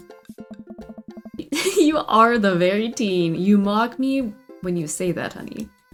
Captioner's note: laughs